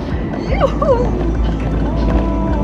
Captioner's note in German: gluckst